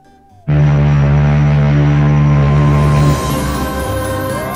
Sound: loud ships horn

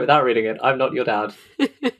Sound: laughs

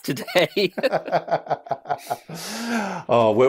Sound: laughter

